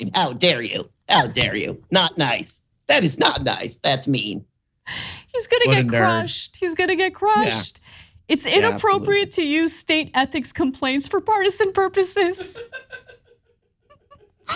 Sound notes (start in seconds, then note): 12.4 laugh